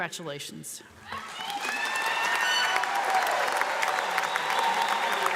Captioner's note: audience applauds